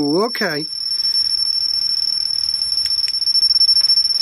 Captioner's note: alarm ringing